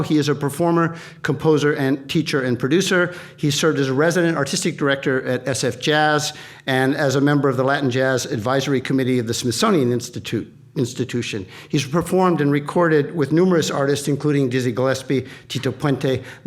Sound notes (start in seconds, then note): none